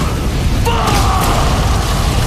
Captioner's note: explosion